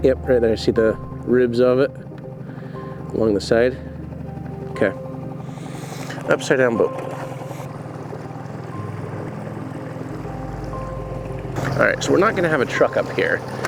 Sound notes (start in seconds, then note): 8.0 water sloshing